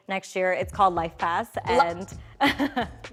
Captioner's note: laughs